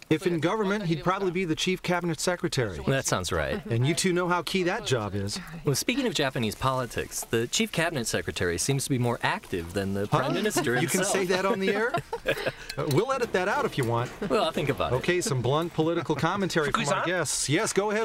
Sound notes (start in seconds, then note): 10.2 laughter